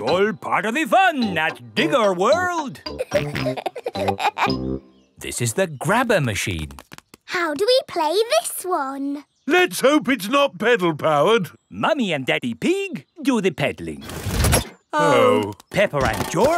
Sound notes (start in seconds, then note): 2.9 peppa and george laughing